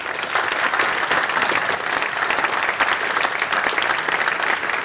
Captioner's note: applause